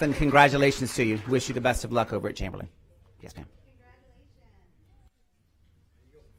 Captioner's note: applause